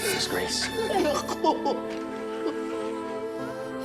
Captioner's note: sobs